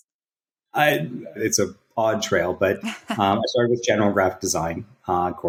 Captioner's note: <Laugh>